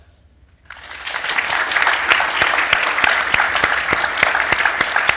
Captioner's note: audience applauding